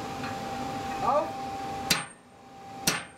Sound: metal knocking

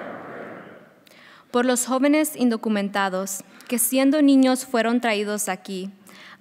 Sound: speaking in foreign language

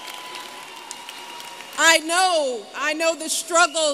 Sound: applause

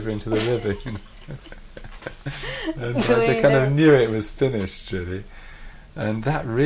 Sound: laughs

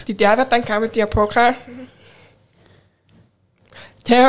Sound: chuckles

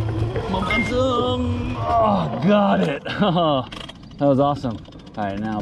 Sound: beeping; grunts; chuckles

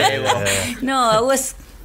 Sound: laughs

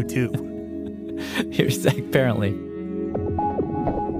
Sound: laughs

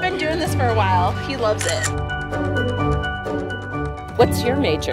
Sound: camera shutter sound

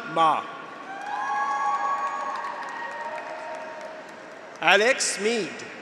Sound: graduates cheer; audience applauds

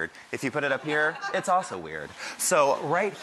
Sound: audience laughs

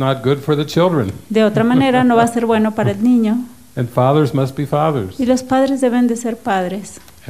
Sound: laughs

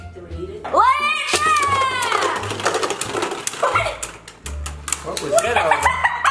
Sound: laughs

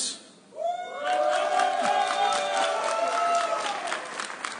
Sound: audience cheering

